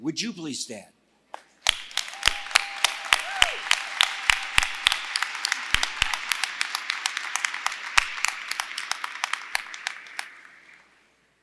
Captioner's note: applause